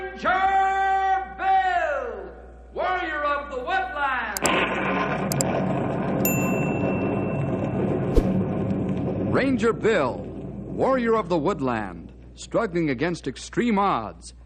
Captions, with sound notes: Ranger Bill, Warrior of the Woodlands. [explosion] [ding] Ranger Bill, Warrior of the Woodlands, struggling against extreme odds,